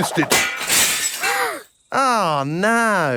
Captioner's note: shatters